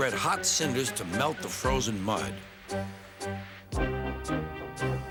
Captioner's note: hissing